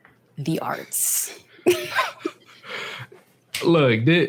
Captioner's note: both laugh